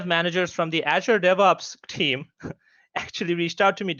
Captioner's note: giggles